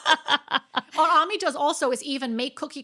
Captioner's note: laughing